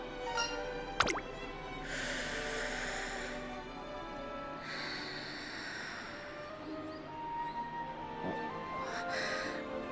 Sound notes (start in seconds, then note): 1.7 exhhaale; 1.7 inhaaale